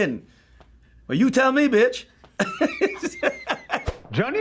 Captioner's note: laughs